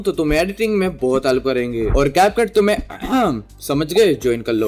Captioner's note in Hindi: गला साफ़ करने की आवाज़